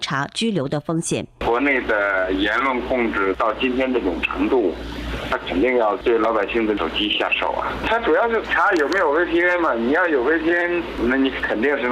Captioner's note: reporter speaking in foreign language; man speaking in foreign language